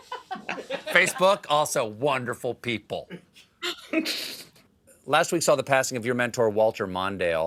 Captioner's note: laughter